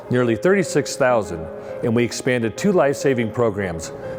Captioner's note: none